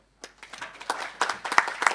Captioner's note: applause